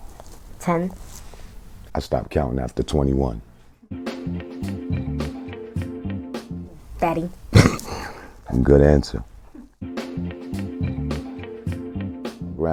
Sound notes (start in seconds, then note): 7.5 laughs